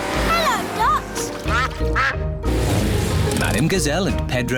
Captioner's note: quacking